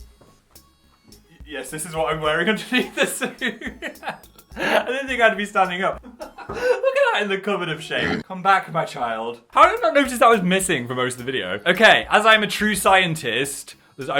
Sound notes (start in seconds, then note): 4.4 laughs; 8.0 pig grunts